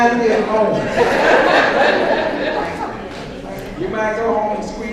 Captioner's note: audience laughs